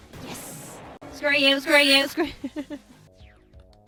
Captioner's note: laughs